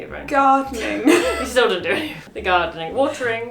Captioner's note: laughs